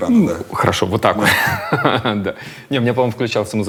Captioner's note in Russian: смеётся